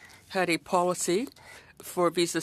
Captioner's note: speaking French